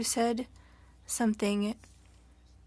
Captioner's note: speaking French